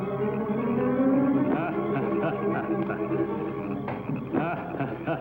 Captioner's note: alien laughing